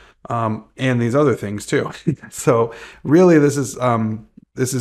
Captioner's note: chuckles